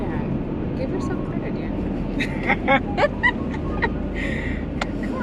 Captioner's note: both laugh